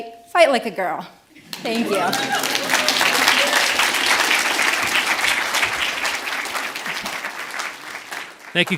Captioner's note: audience cheers and applauds